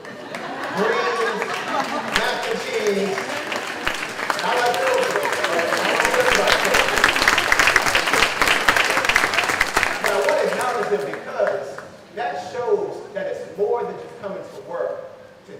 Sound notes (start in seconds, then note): 6.4 clapping